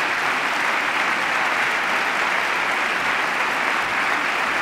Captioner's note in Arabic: تصفيق